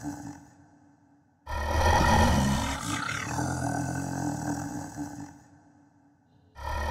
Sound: groaning; groaning

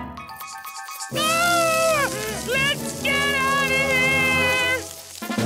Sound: screaming

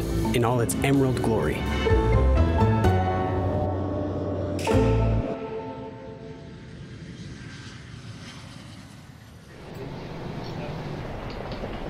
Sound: CGI airplane sounds

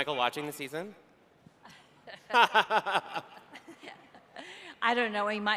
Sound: laughing

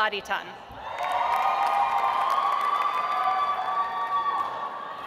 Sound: audience applauds

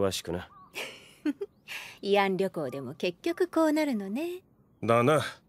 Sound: chuckles

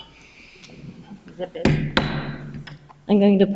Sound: gavel taps

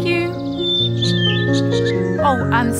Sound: bird sounds

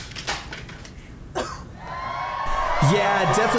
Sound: coughing

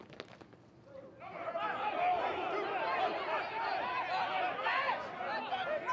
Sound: troop Commanders and officers shout

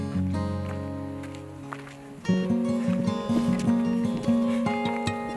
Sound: sound of wind

